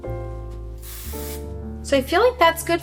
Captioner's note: spray whooshing